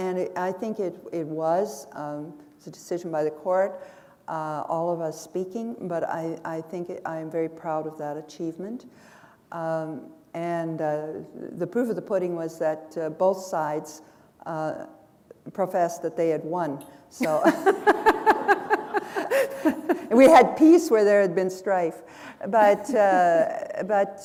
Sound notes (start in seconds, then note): 19.2 laughter; 24.0 chuckle